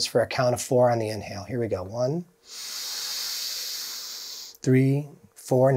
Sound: inhaling deeply

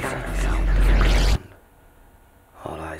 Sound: atmosphere whooshing

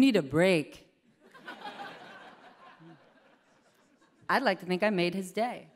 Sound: laughter

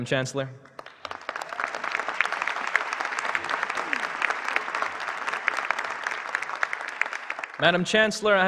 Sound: applause

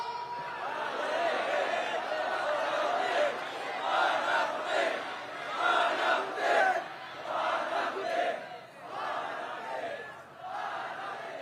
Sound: crowd chants: "Hold them accountable!"

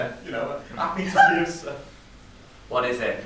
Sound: sobs loudly

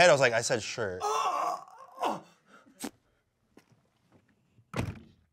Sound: groans; door thuds

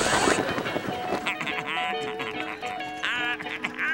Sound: giggling; laughing

